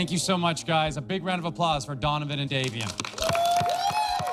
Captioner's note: contestants cheer